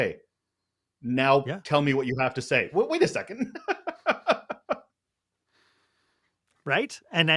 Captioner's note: laughter